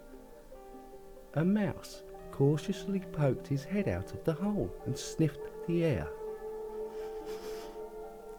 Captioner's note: sniff sniff